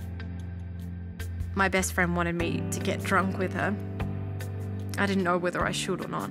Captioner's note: voiceover